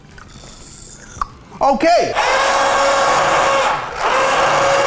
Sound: loud whirring

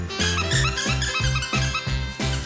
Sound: squeaky toy

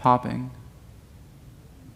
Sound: interfering audio

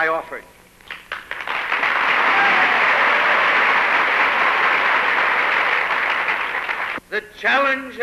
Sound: applause

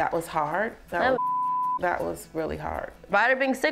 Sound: beep

